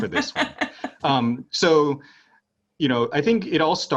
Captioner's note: laugh